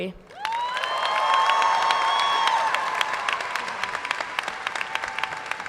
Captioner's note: audience cheers and applauds